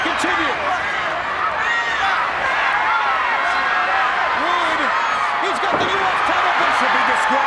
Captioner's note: applause